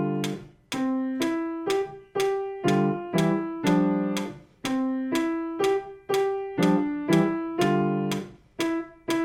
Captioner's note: metronome clicking